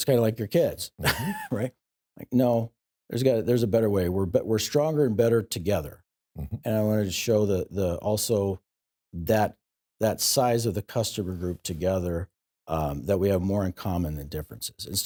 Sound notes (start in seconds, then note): 1.0 laughs